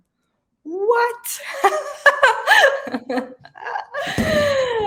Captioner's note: woman laughing